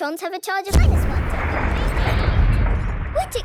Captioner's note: distant explosion